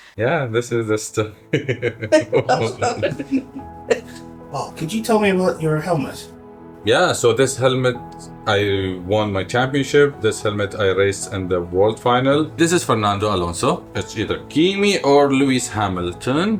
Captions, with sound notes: Yeah, this is the story. (Laughter) Oh, man. Could you tell me about your helmet? Yeah, so this helmet, I won my championship. This helmet, I raised in the world final. this is Fernando Alonso. either Kimi or Lewis Hamilton,